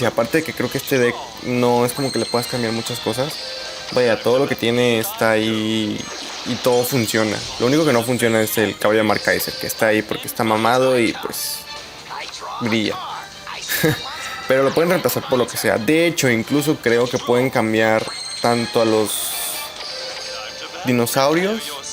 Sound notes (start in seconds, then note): 13.5 unnecessary laughing